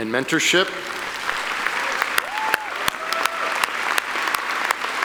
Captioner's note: audience applauding